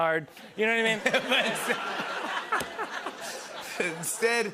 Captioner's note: laughter